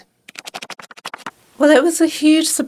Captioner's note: pages flipping